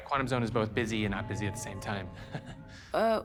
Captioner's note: chuckles